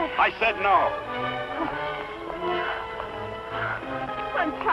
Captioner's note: panting